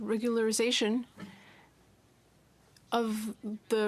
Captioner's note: speaking French